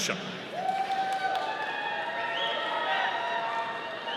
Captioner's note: audience cheering